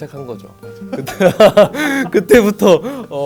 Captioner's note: laughs